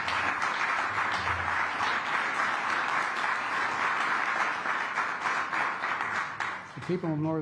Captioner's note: applause